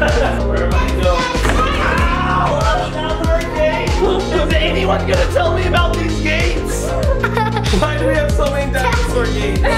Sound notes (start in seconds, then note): 0.0 laughs; 1.8 baby gate crashes; 6.9 laughing